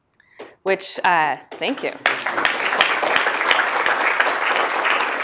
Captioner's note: audience applauds